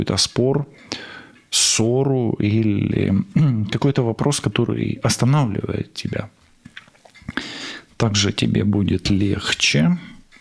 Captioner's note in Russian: откашливается